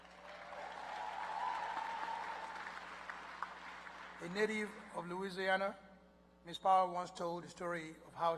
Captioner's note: applause